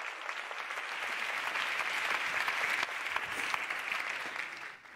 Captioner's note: applause